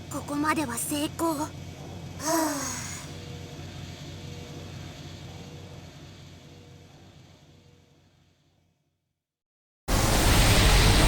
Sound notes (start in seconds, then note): 2.2 relieved sigh